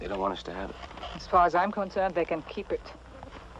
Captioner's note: scoffs